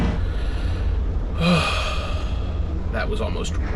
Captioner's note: sighs loudly